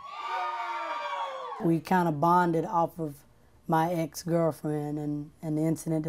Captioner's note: cheering